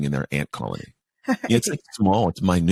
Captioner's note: laughs